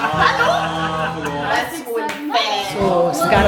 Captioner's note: laugh; speaking German